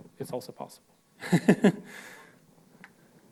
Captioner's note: laughs